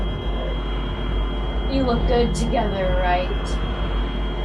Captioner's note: whoosh sound